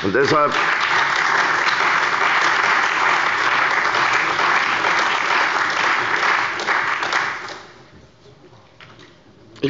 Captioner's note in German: Beifall bei der CDU und dem BÜNDNIS 90/DIE GRÜNEN